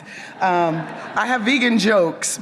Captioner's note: audience laughs